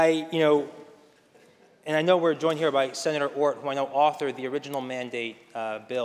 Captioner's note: laughter